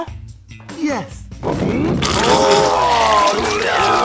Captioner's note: pukes